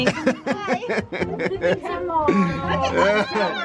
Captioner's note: laughs